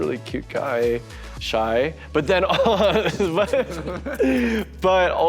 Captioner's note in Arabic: يضحك